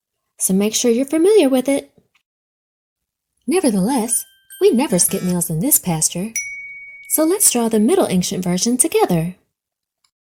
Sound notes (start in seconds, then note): 6.2 check mark dings